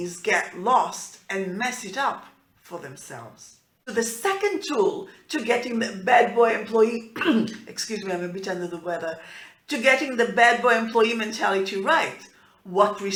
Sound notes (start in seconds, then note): 7.1 clearing throat